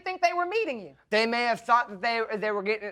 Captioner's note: stammering